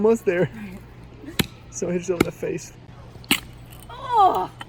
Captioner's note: axe pounding